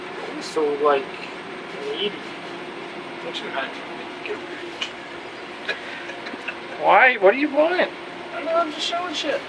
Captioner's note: laughing